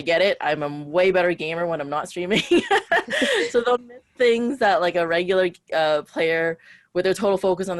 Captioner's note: laughs